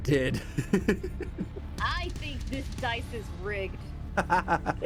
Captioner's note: laughs; laughs